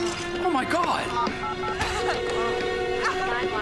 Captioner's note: dialing phone